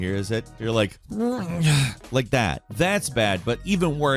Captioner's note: groans